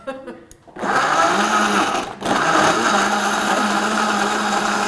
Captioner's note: blender grinding